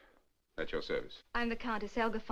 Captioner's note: none